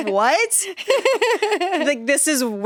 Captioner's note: laughs